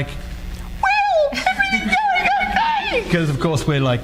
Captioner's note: high squeaky vocal sounds; audience laughs